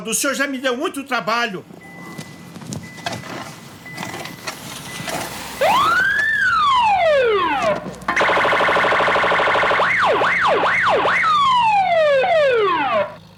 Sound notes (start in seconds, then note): 3.8 car approaches; 5.5 police siren